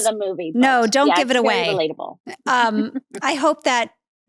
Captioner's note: laughs